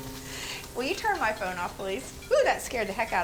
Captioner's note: laughs; phone rings